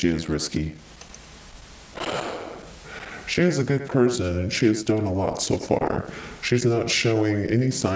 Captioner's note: sighs